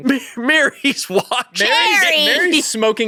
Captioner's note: laughs